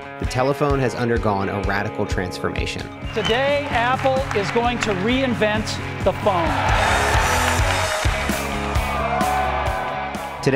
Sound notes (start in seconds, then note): 6.8 audience applause; 8.7 upbeat rock music